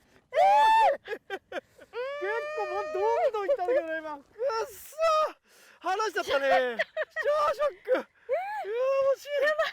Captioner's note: laughs